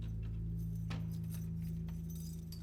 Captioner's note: thumps